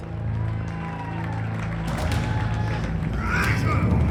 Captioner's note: audience cheering; men grunting